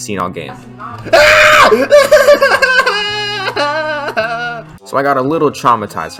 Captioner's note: scream of pure distress